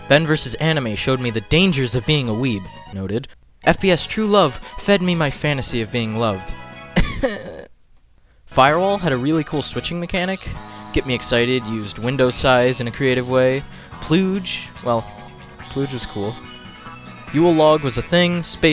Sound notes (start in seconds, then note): 7.0 crys of pain